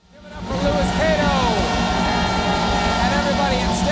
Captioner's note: applause